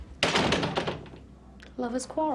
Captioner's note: door closing